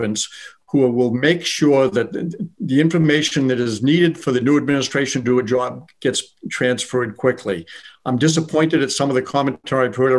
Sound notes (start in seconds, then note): none